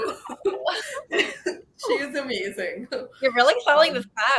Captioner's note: laughing